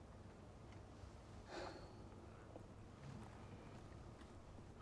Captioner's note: sighs